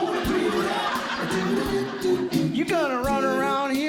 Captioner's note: audience Laughing